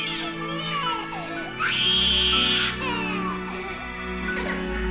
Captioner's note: Eva crying